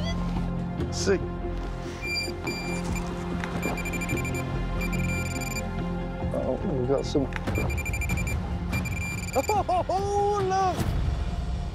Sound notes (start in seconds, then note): 1.8 beeping; 3.1 beeping rapidly; 8.7 beeping rapidly; 9.3 laughs